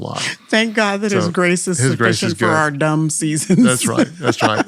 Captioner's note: laughs